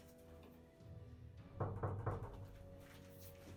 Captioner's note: knocking